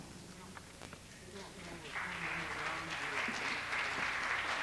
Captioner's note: applause